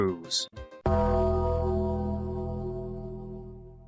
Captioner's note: funeral Gong FX